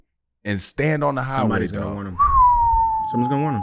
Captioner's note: whistles